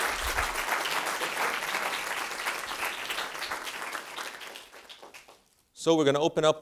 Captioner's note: applause